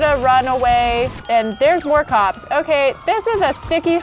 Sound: affirmative ding

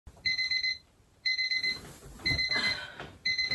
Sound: alarm sounding

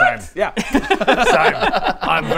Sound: uncaring laughter

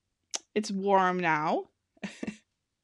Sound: laughing

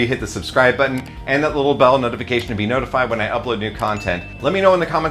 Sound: bell

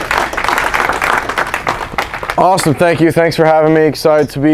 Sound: audience clapping

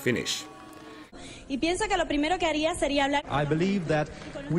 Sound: woman speaking in Spanish

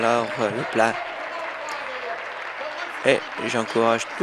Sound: applause

